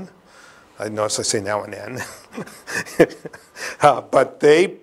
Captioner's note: laughs